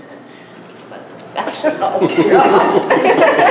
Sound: laughter

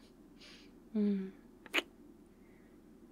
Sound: kiss

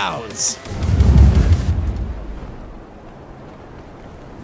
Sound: deep roaring

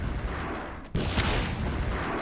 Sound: APC Fires Missile

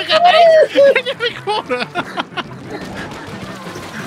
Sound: laughing

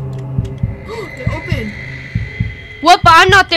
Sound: gasps

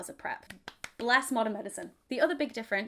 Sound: clapping

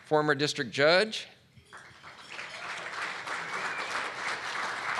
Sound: audience clapping

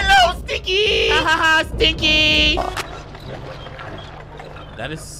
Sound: video buzzes

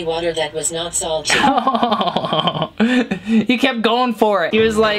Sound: laughing

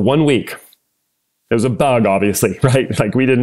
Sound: laugh

